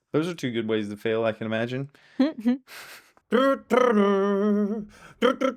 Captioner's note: mimics music